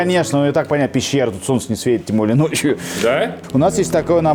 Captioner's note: sarcasm